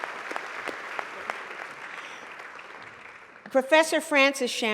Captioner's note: applause